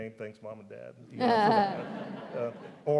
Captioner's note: crowd laughs